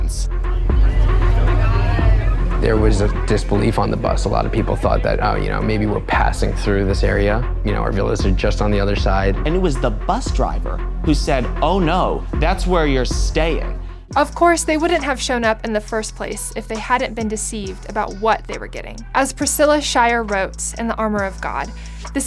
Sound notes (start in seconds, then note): 0.5 crowd talking